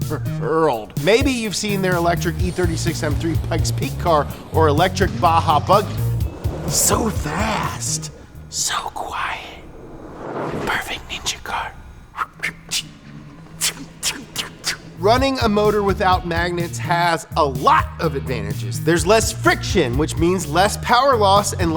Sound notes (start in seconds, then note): 12.1 imitates throwing star sounds